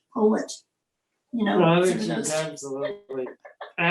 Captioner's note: laughs